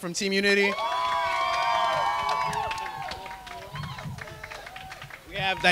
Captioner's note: cheering and clapping